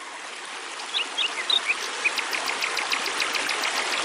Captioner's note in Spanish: sonido de agua de río y pajaros